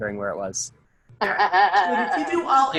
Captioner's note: laughing